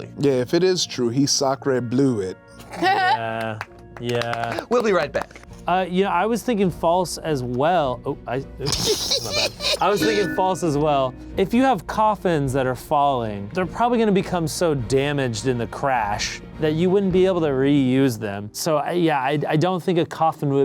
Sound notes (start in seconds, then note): 2.6 laugh; 3.2 applause; 8.6 laughs